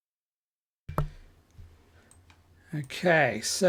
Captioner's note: silence